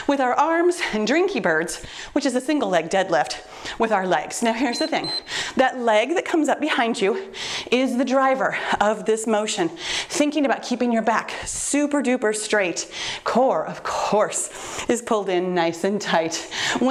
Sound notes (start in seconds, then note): 4.6 timer beeps